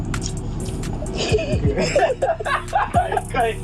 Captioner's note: laughing